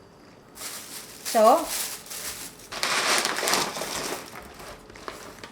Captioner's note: plastic bags rustling